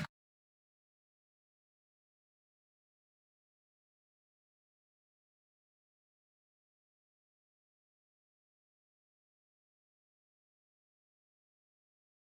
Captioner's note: silence